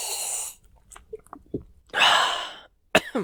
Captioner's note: swallows; coughs